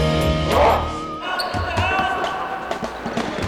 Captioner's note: game hubbub